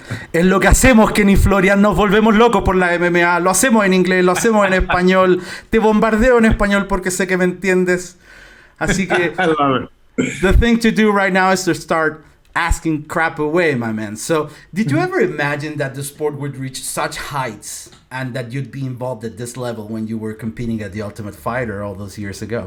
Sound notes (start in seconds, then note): 0.2 in Spanish